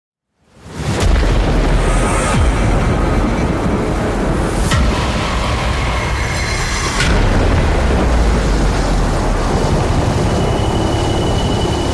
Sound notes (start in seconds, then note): 0.4 thunder rumbling; 1.2 ominous instrumental music; 7.6 rain whooshing